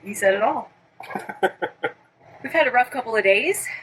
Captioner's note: laughing